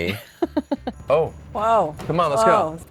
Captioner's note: laughing